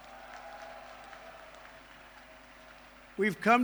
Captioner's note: applause